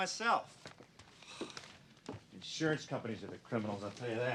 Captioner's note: sighs